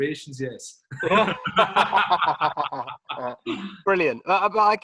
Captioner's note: both laughing